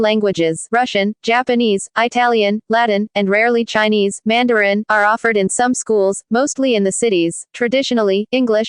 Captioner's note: Mandarin